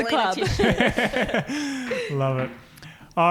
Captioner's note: laughing